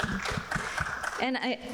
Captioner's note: people clapping